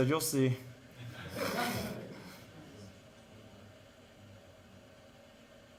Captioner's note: audience laughing